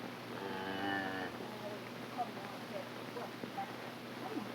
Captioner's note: cows mooing